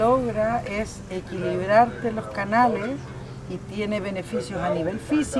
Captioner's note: speaking Spanish